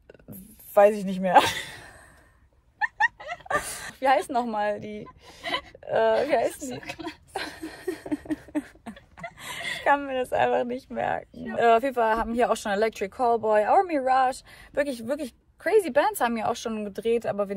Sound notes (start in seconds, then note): 2.8 laughs; 7.7 laughs; 9.5 laughs